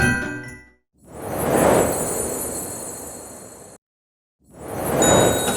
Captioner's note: snowflake jingling